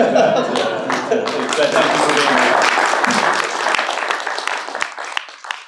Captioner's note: applause